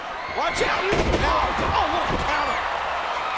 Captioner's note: bodies thud